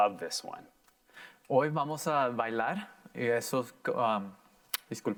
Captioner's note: in foreign language